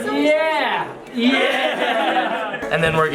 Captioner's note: men laughing